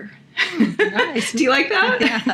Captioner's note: laughing